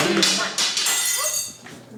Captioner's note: sound of glass shattering